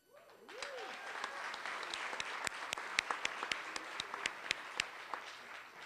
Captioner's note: applause